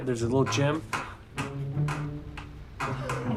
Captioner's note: gym machine clacking; laughter